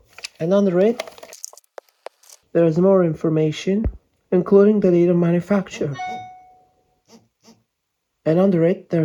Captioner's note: phone e-mail rudely interrupting